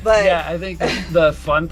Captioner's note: laughs